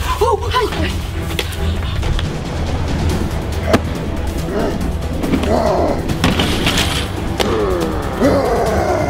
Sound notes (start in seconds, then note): 5.3 grunts